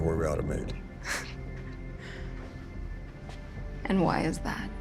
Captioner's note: scoffs